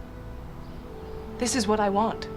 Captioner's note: none